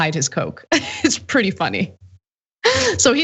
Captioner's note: laugh